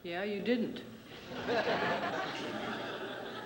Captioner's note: laughter